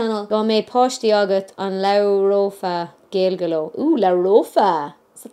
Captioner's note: speaks foreign language